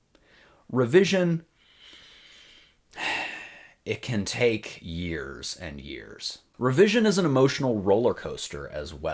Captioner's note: sigh